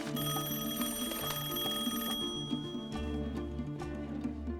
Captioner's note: rings